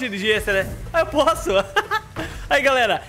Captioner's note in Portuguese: risos